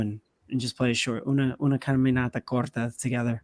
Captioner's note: speaking spanish